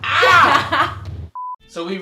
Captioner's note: laughs